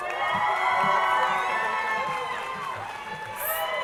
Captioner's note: crowd cheering